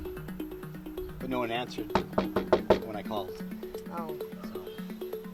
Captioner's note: knuckles rapping